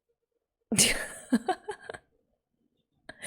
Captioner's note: laughs